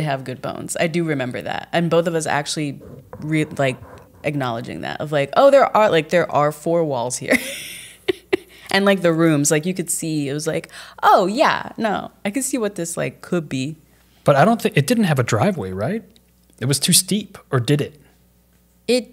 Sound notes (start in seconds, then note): 7.4 laughs